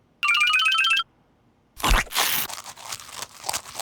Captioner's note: crunches and chews